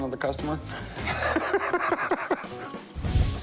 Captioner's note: laughs